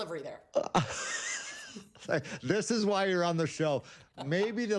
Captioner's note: laughs